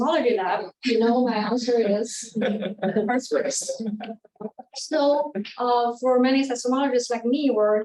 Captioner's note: audience chuckling